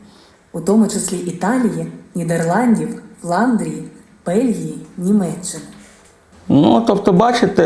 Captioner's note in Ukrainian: звучить аудіозапис